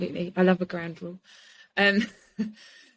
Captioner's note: laughs